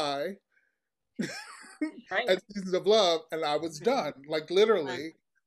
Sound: laughs

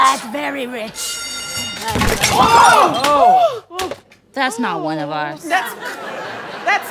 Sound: crash

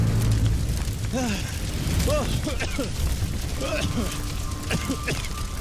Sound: coughing

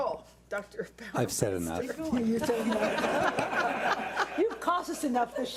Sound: board laughs

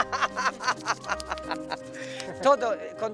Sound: laughs

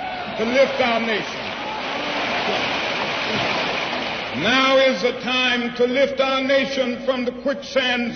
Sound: applause

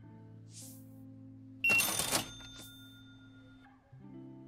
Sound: beeping

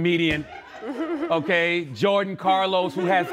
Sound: giggles

